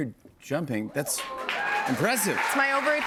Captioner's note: cheers and applause